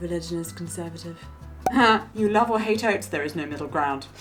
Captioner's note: air popping